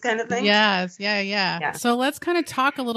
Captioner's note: none